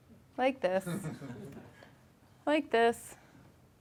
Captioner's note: laughing